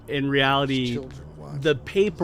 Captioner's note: laughs